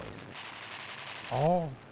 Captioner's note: gunfire rattling